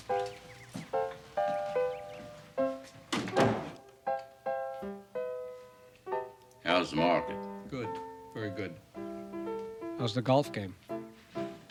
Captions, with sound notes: (melodic piano music) (door thudding) - How's the market? - Good, very good. How's the golf game?